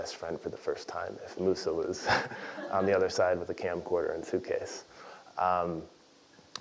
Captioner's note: laugh